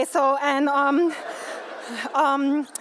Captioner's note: laughter